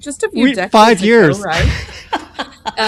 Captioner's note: laughs